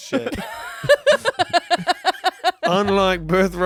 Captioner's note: everyone laughs